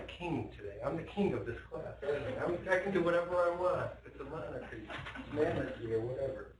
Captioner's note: laughter